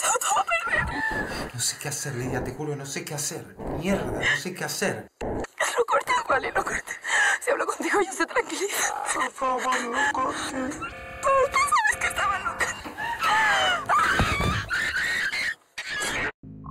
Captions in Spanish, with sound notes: Pero Rodrigo lo ha echado todo a perder. No sé qué hacer, Lidia. No sé qué hacer. Mierda, no sé qué hacer. No cortes, Wally, no cortes. Si hablo contigo, ellos se tranquilizan. (VOZ DISTORSIONADA) Por favor, no cortes. Y pensabas que estaba loca. (GRITA)